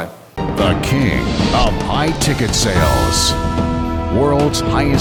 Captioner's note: voiceover